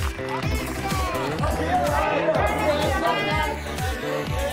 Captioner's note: photographers shout